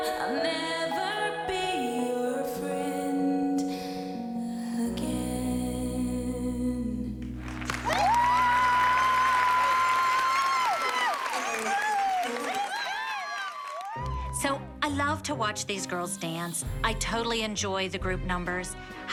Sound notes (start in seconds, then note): 7.4 cheering and applause